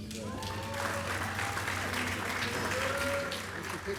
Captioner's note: applause